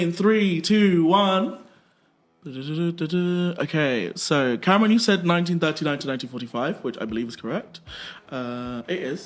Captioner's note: humming